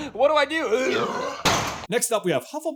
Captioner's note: completely realistic sounding basilisk roar impression